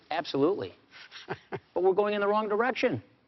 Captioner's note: chuckles